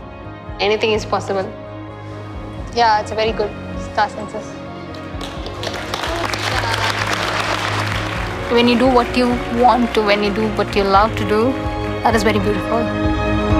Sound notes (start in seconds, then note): 4.9 applause